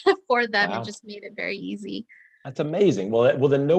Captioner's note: laughing